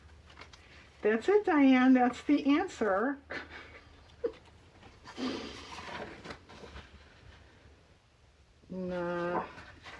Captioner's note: laughs